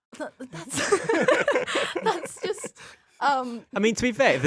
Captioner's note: all laughing